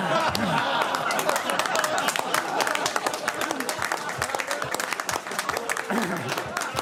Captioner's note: laughter; applause